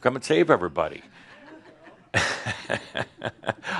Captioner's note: Adamus chuckles